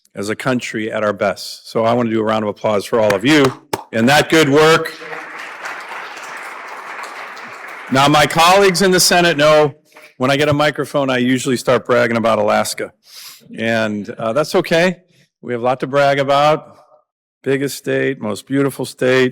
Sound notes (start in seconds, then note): 6.3 applause